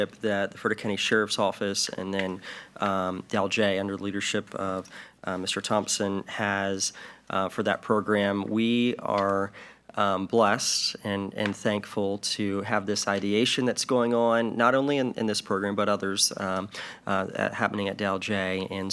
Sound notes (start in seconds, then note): none